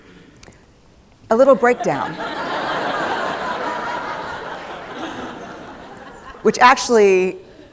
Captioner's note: laughter